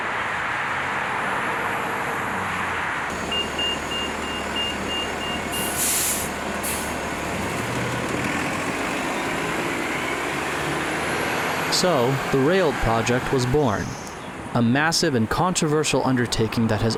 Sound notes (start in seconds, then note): 3.2 beeping; 8.2 bus engine roaring